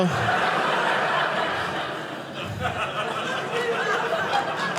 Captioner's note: audience laughing